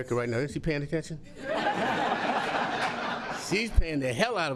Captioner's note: laughter